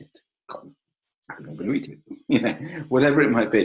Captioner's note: laughs